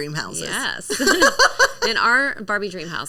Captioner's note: laughing